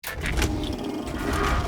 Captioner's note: clicking; reel spinning